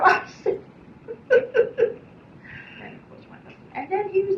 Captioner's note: laughs